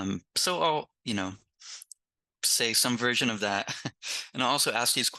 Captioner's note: chuckles